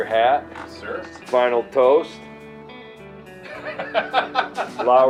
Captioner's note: laughter